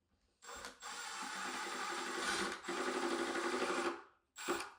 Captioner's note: driller whirring